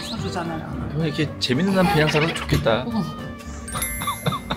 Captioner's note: bursting out again